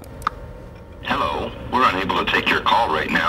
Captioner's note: mouse click